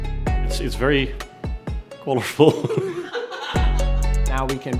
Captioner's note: laughs